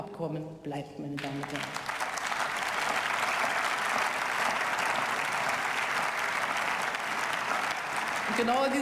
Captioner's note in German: Beifall